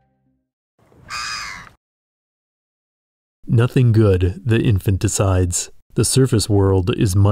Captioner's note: bird call